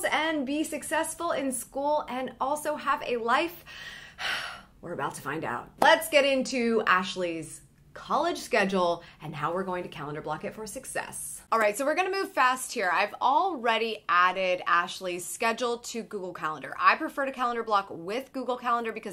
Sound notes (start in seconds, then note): 3.7 sighing deeply